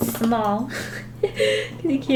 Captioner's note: laughs